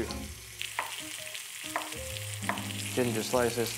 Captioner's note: sizzling sound